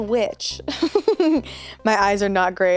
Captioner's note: laughs